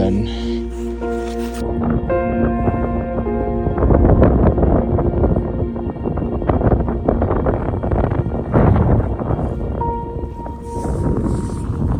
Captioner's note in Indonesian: Suara angin